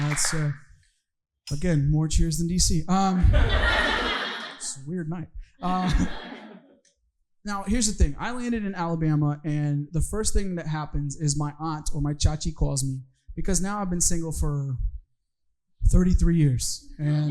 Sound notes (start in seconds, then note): 0.0 audience cheering; 3.2 audience laughing